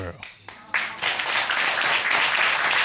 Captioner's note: applause